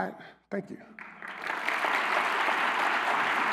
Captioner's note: applause